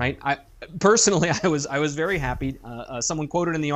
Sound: chuckle

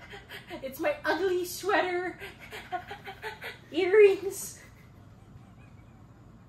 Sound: laugh

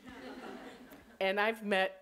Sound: audience laughing

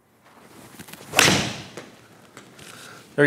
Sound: golf ball hitting

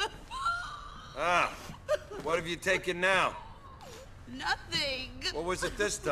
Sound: cries and sniffs

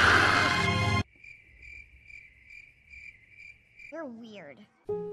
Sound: awkward silence

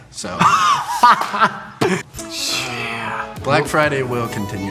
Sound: laughs

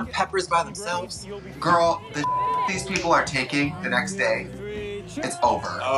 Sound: beep

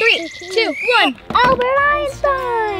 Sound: whistle blows

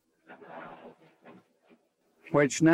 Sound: audience laughing

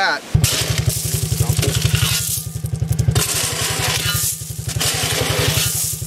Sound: shovel scraping and engine knocking

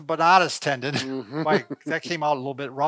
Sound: laughing

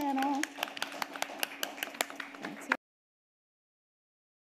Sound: audience applauding

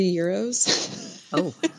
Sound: laughs

